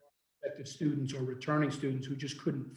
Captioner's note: faintly speaking